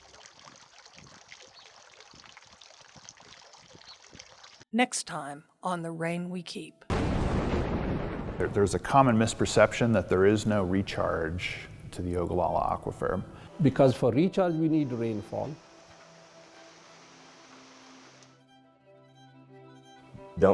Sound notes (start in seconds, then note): 0.0 water sloshing; 6.9 thunder crashing; 15.3 water hissing; 18.1 somber music